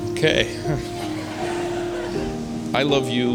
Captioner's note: laughs; spectators laughing